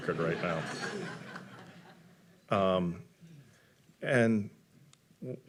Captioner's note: audience laughing